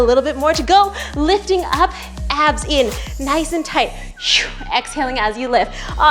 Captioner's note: wheezes